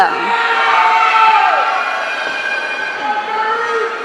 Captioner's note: audience cheering